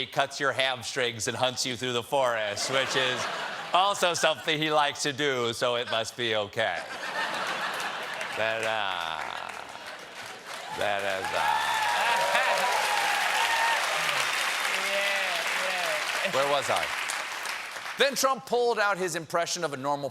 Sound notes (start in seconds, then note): 13.3 cheers and applause